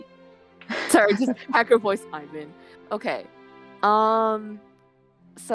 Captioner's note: hacker voice